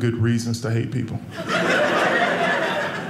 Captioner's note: audience laughing